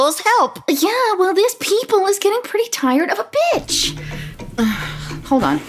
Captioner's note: phone rings